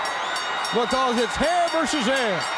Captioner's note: bell ringing